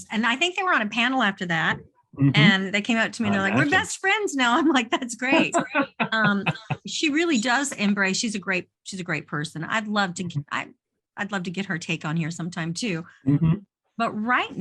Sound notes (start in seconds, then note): 5.3 laughter